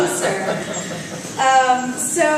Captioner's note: laugh